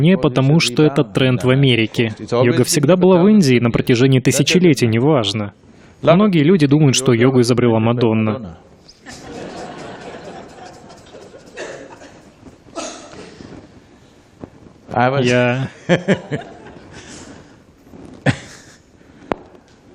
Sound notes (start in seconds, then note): 9.0 Смех; 18.2 Смеется